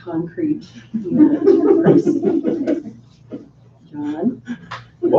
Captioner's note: laughing